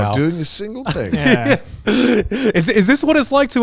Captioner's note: chuckles